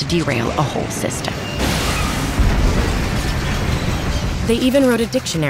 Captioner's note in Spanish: choque y explosión de trenes